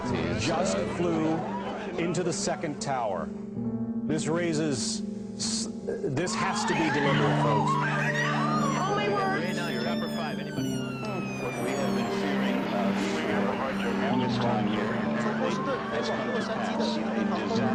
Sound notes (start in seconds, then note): 8.5 people screaming; 10.7 police sirens wailing; 10.7 reporters chattering